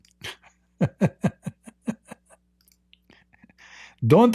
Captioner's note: Ketawa